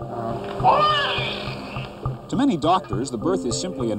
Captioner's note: baby cries